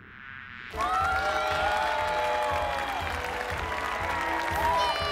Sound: cheering and applauding

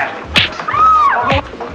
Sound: woman screams

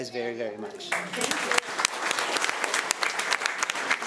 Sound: applause

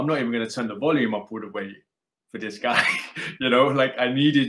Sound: laughs

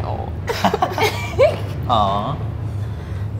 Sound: laughing

